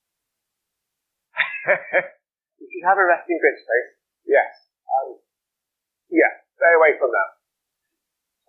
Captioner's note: laughs